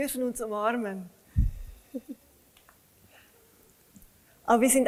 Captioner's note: laughs